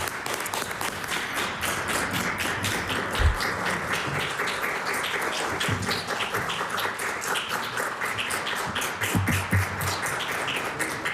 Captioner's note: applause